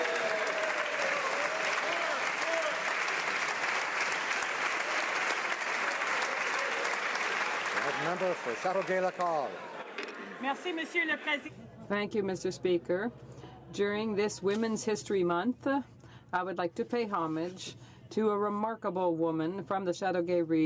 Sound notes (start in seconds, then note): 4.1 cheering/Applause